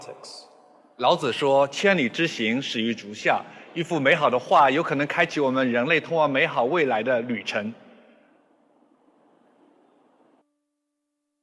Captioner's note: non-english speech